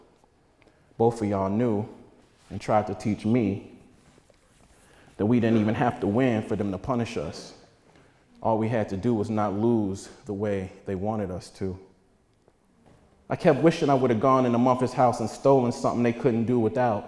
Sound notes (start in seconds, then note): none